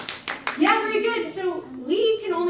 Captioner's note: audience applauds